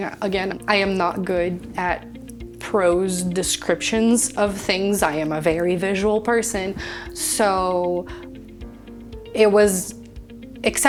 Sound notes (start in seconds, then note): none